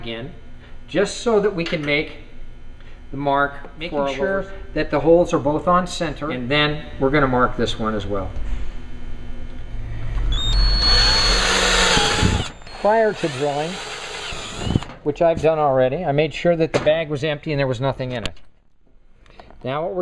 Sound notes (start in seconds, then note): 10.3 drilling sounds